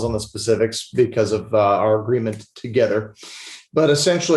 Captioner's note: sniffles